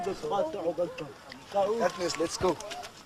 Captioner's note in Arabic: متحدثا بلغة أجنبية